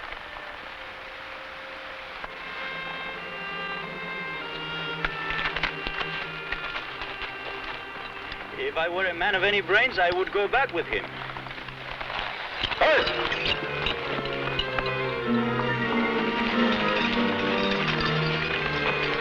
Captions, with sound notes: (somber music) - If I were a man of any brains, I would go back with him. (man shouts) (tense music)